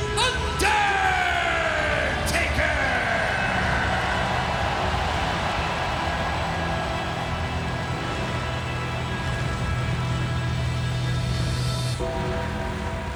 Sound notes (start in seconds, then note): 4.7 creepy music continues; 4.7 crowd cheering